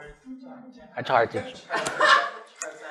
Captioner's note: laughter